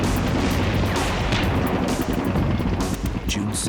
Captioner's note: sounds of battle